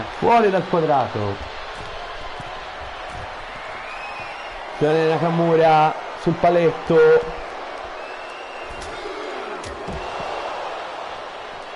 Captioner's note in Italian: Applauso